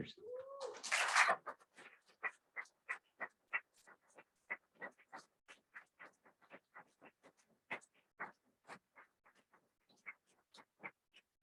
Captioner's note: applause